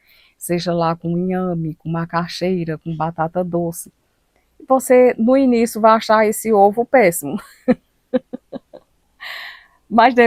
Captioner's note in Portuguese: risadas